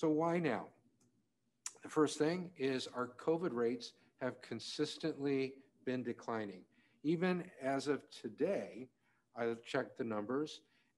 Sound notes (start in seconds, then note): none